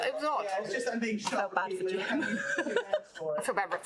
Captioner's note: laughs